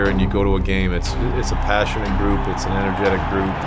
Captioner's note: crowd cheering